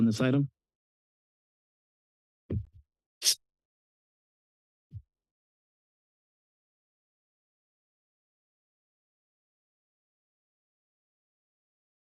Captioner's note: silence